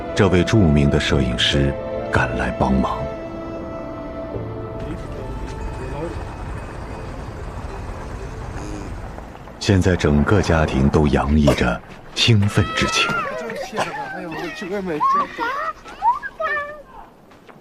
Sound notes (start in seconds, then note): 12.4 excited chatter and laughter